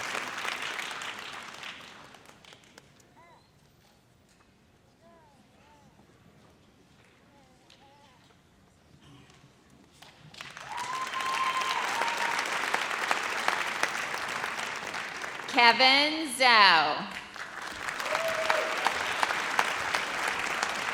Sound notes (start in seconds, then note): 10.3 audience applauds; 17.4 audience cheers